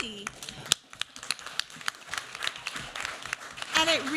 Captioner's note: applause